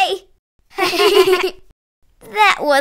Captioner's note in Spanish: Risas